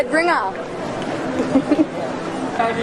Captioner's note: giggles